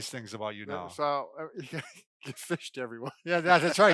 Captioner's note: chuckles